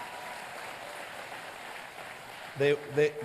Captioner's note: applause